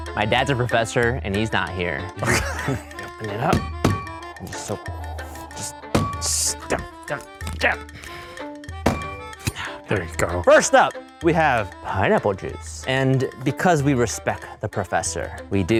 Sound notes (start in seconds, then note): 2.2 men laughing; 4.8 grunts; 8.8 bottle clinking